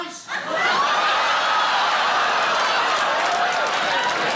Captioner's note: audience cheering